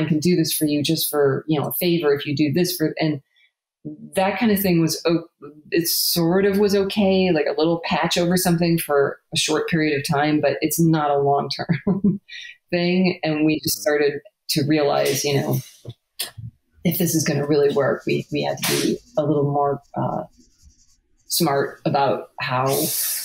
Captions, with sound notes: can do this for you just for a favor if you do this." And that kind of thing was, it sort of was okay, like a little patch over something for a short period of time, but it's not a long-term (laughs) thing. And we just started to realize, if this is gonna really work, we have to be a little more smart about how,